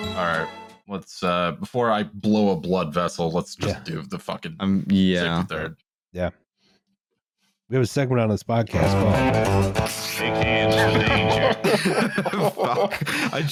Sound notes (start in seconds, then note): 8.8 ♫ twangy guitar riff ♫; 10.7 laughter